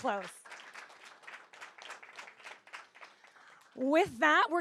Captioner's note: audience applauds